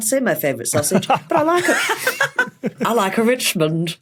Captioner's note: others laughing